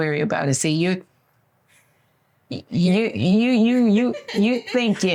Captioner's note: laughs